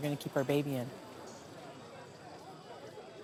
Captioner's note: chattering